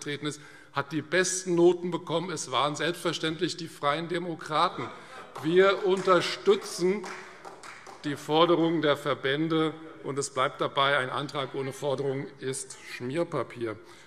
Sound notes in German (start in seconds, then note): 4.7 Vereinzelter Beifall Freie Demokraten - Lachen BÜNDNIS 90/DIE GRÜNEN und SPD